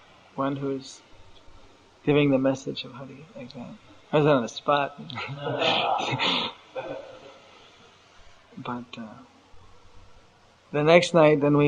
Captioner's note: laughter